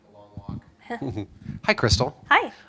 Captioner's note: laughs